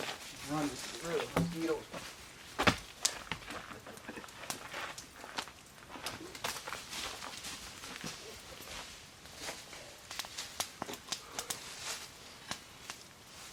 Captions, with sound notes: Run to get away from the mosquito! (laughing)